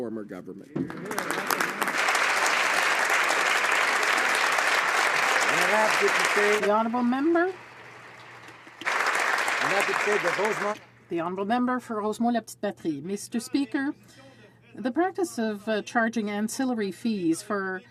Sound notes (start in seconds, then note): 10.4 some Applause